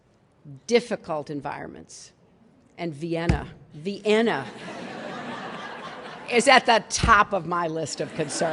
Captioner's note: laughter